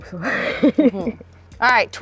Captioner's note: laughs